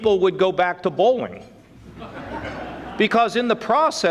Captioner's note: audience laughing